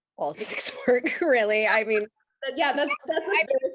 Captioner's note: laughs